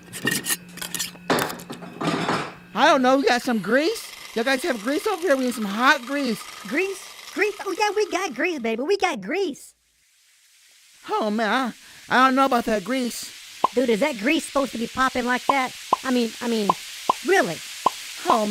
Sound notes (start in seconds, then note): 1.2 banging and clanging sounds; 9.8 grease sizzle and pop